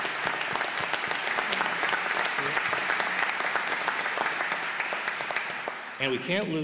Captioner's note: applause